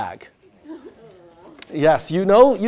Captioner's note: groans